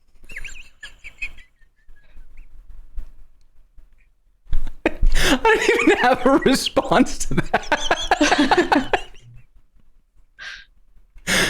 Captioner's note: laughter -- losing it